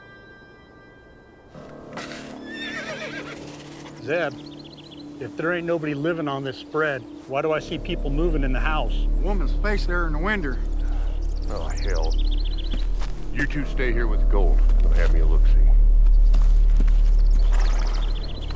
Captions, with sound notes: (dramatic music) (horse neighs) - Zeb, if there ain't nobody living on this spread, why do I see people moving in the house? - There's a woman's face there in the window. - Oh hell, you two stay here with gold. I'm gonna have me a looksie.